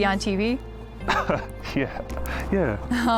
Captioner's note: Carl chuckles